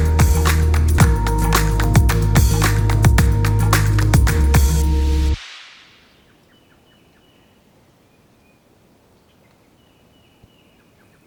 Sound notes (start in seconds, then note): 6.1 birds chirping